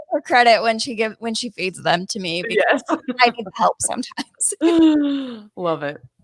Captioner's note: laughing